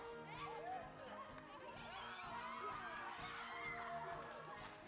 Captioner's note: all scream in happiness